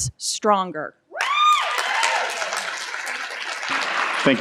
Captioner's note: cheering and Applause